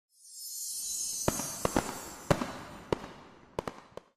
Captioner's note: fireworks